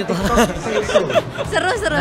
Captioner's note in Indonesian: tertawa